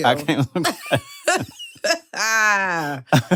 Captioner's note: laughter